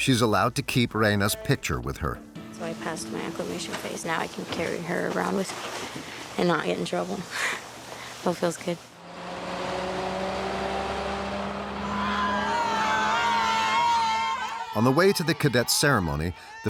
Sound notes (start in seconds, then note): 13.2 candidates yelling